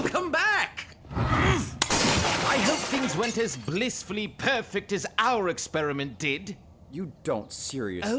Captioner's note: grunt